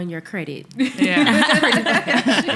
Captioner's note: laughing